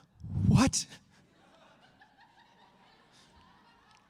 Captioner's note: laughter